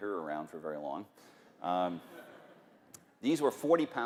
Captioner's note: laughter